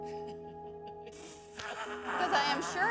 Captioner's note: laughs